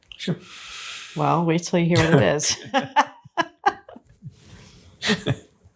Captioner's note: laughs